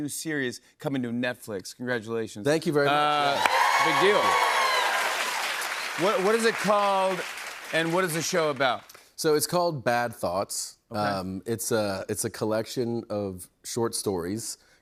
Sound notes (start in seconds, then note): 3.1 cheers and applause